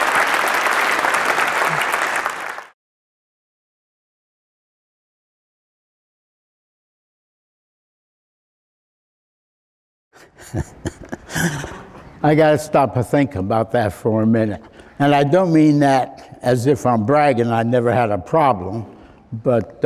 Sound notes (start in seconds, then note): 10.2 chuckling